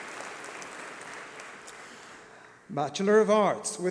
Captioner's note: applause